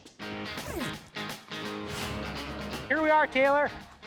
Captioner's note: zipping